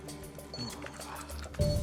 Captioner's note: panting